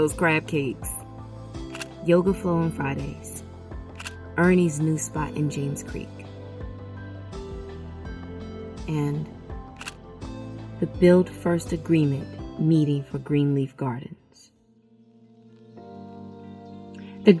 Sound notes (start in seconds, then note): 1.7 camera shutter clicking; 3.9 camera shutter clicking; 6.6 gentle music; 9.8 camera shutter clicking; 15.2 gentle music